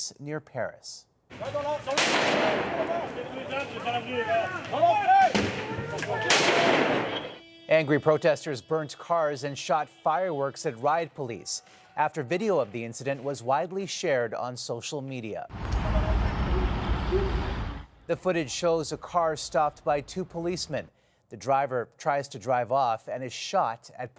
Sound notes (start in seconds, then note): 5.2 gunfire